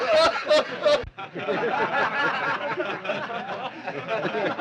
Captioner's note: laughter continues